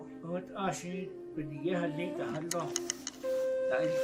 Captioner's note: people speaking in Navajo